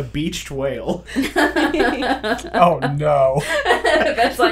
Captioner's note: laughter